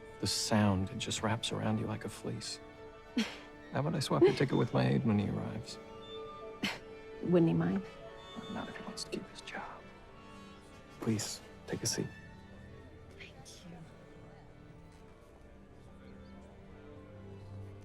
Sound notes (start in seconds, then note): 6.6 chuckles